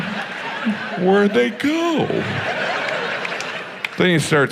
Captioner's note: audience laughs